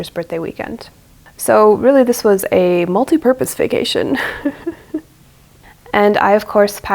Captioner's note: chuckles